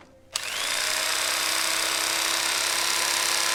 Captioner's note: knife whirring on